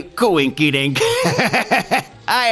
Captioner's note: laughs